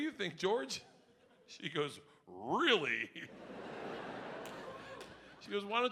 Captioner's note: audience laughing